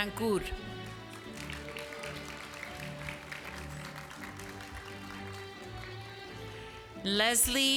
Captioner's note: applause